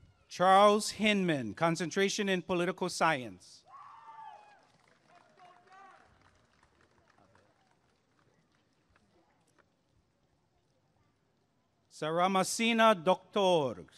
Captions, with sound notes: Charles Hinman Concentration in Political Science [applause and cheering] Saramasina Docktor